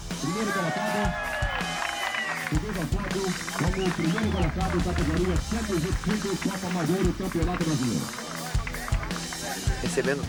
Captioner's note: muffled announcement